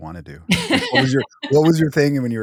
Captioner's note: laughing